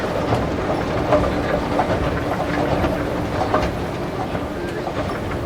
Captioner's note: announcer faintly speaking